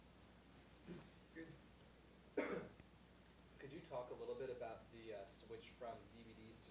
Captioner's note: voiceover